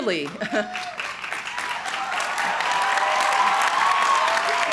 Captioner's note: crowd cheering